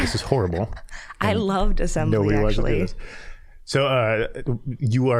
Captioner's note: laughing